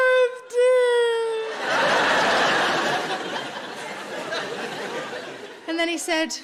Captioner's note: audience laughing